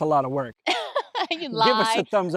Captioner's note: laughs